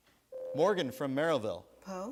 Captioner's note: buzzer sounds